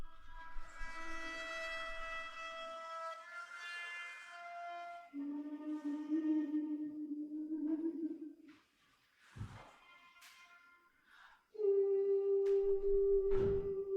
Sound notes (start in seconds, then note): 0.0 gentle music; 5.1 woman humming